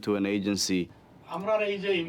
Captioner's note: non-english speech